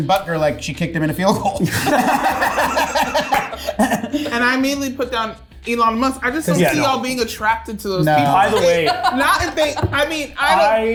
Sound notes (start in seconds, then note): 1.7 cast laughing